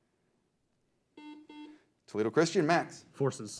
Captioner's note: beep